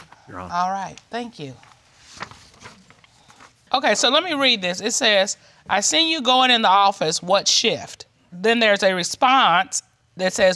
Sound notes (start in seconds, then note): none